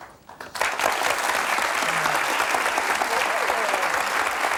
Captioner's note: audience applauds